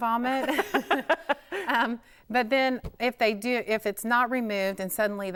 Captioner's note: laughing